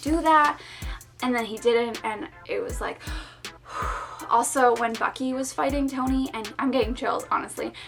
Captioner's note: phew